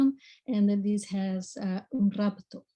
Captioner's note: speaks in foreign language